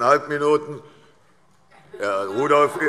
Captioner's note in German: Heiterkeit